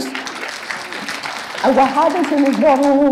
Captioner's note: applause